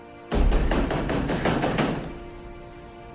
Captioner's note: banging; somber string music